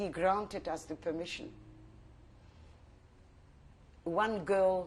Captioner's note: pauses for 3 seconds